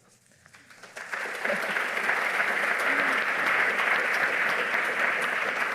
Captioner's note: audience applauding